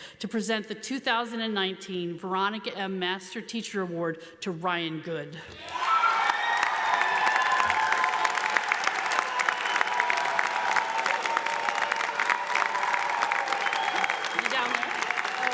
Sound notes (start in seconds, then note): 5.6 audience applauds; 5.6 audience cheers